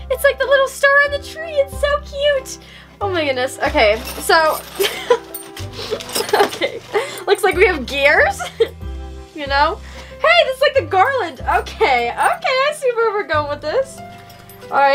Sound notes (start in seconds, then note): 4.8 laughter